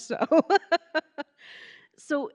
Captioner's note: giggling